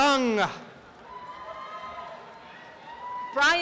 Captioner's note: applause and cheering